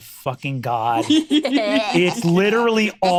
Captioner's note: laughs